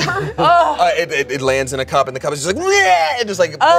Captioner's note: gags